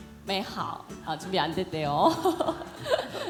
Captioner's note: laughter